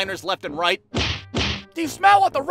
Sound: thwack-thwack

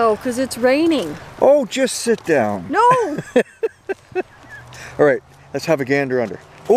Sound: laughing

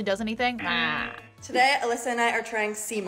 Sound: buzzer rings

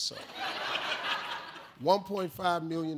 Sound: audience laughs

